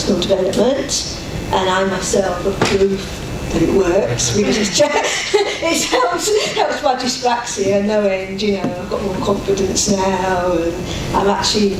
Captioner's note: laughs